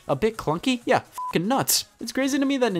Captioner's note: beep